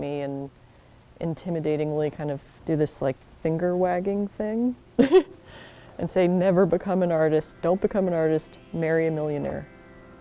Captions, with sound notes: and intimidatingly, kind of, do this, like, finger-wagging thing. [LAUGHS] And say, “Never become an artist. "Don’t become an artist." "Marry a millionaire."